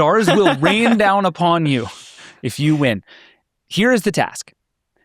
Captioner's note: laughs